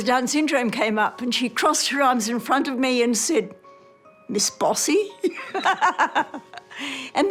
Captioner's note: laughs